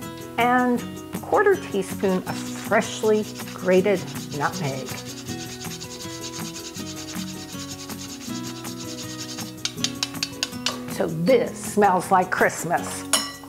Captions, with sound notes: and quarter teaspoon of freshly grated nutmeg. (upbeat music) (jarring sound) So this smells like Christmas.